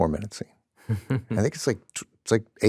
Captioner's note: chuckles